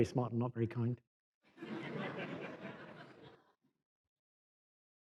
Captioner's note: laughter